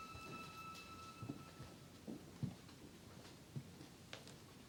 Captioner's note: footsteps thumping